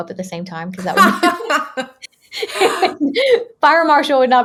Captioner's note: laughing